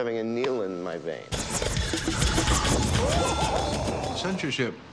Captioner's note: laughing